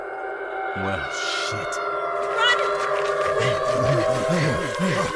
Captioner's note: screams